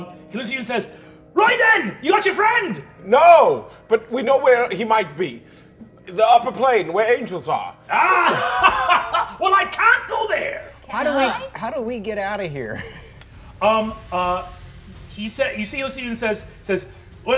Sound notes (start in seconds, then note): 7.9 laughing